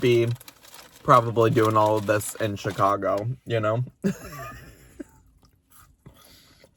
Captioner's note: laughs